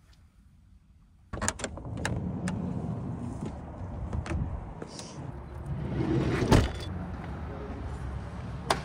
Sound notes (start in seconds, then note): 1.4 door rumbles; 6.3 door thuds